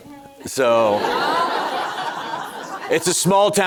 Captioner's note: audience laughing